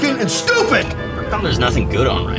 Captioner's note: whacks radio